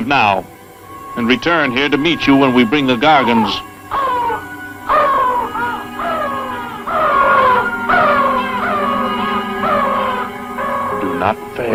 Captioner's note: vultures screaming